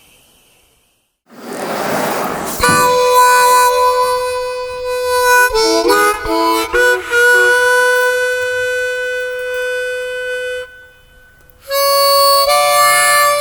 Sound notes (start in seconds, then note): 1.3 door scraping; 3.7 somber harmonica music